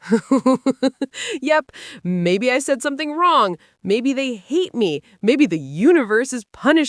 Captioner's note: laughs